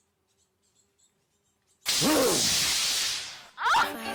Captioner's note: growl